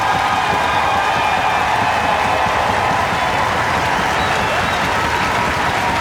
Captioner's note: audience exuberantly cheering